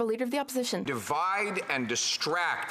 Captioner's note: applause